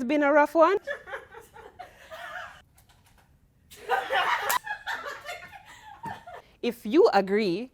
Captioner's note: laughing